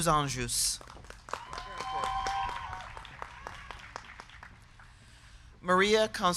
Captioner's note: crowd clapping; crowd cheering